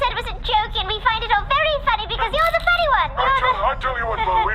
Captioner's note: nervous laughter